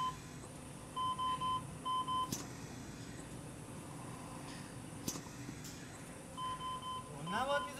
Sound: mechanical Ventilation beeping

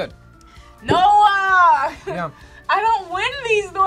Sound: laughs

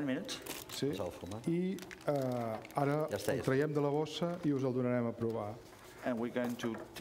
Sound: speaking catalan

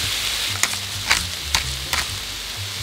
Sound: peppercorns cracking

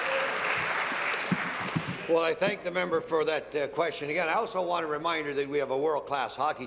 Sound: applause

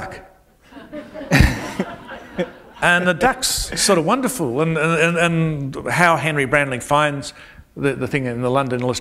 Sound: laughter

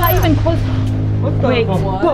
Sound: intense buzzing

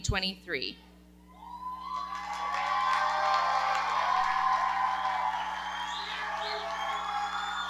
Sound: audience cheering and clapping

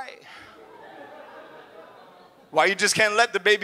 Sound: audience laughs

